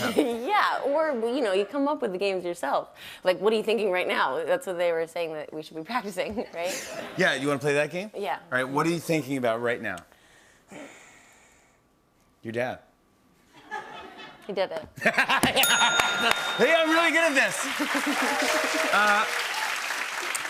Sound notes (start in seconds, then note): 15.2 laughing; 15.6 ding; 18.4 cheers and applause